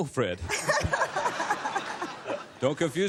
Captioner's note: laughter